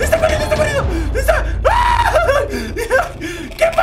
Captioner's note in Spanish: Grita